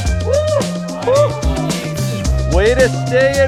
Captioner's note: cheers